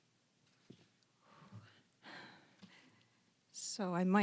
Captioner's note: exhaling softly